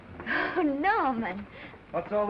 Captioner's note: laughs